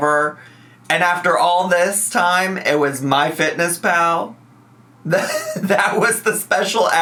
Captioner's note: laughs